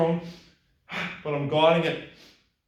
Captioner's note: gasps loudly